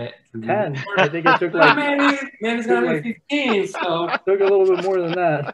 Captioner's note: laughter